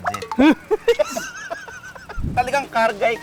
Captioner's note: both laughing